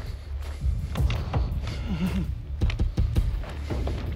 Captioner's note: whimper